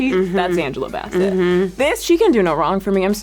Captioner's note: hums